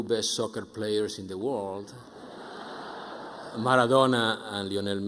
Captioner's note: audience laughing